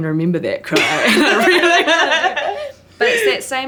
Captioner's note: all laughing